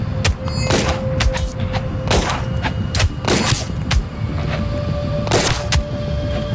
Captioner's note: blows thudding; gun blasting